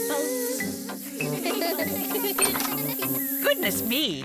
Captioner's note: all laugh